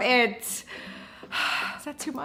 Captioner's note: inhales and exhales sharply